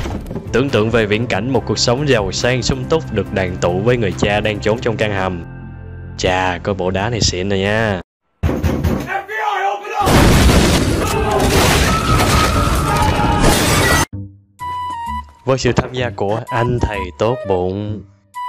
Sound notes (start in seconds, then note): 11.8 random girly scream; 12.3 smashing vase for dramatic effect